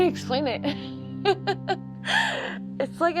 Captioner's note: laughter